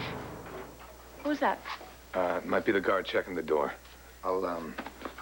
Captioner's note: banging noise